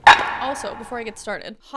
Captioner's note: banging